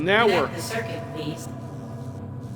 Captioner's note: computer voice